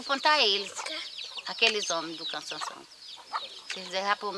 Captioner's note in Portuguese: Canto de pássaros